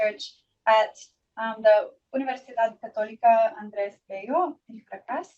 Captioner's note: foreign language